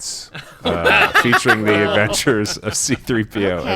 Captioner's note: bewildered laughter